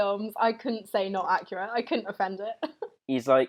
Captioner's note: chuckles